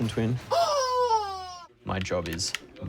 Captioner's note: rooster toy crows